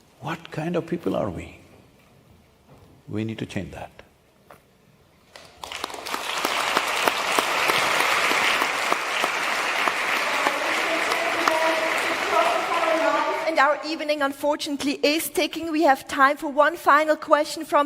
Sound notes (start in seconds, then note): 5.3 applause